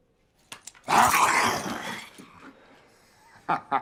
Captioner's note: William growls; William laughs